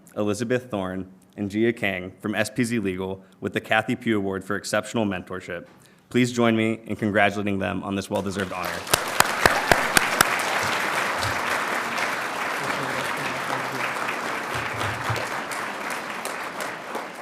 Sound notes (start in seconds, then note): 10.3 audience applauding